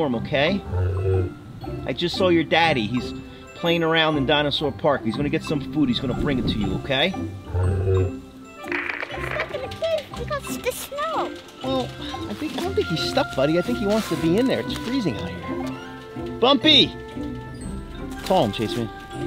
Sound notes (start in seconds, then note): 7.4 animal groans; 15.9 happy music; 16.9 yells